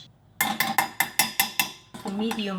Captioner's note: pot clanging